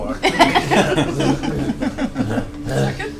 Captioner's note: all laugh